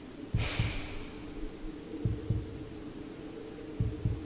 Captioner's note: sighs